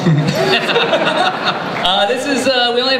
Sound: laughter

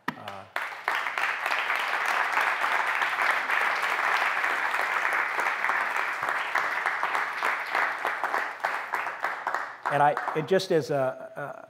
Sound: applause

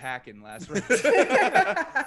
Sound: laugh

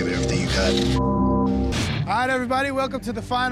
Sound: beep

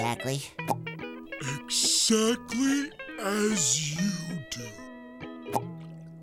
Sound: popping; popping

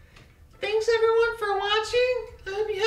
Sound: in a high pitched voice

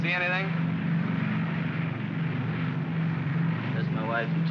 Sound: aircraft rumbles

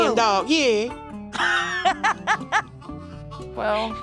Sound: laughs boisterously

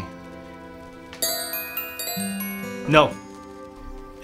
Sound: bells ringing

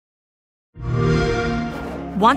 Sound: xbox sound

